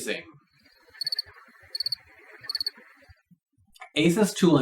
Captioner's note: crickets chirp